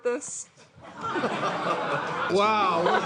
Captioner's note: laughter